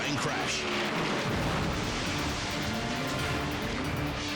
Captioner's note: explodes